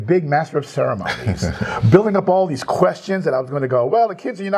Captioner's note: laugh